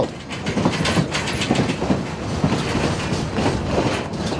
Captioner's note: train chugging